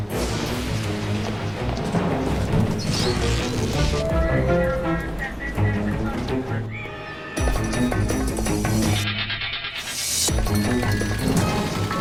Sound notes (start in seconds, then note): 7.8 bionic sound effect